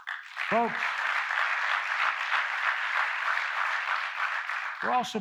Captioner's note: applause